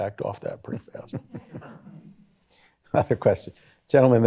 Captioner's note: chuckles